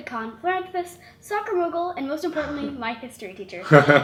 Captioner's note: laughs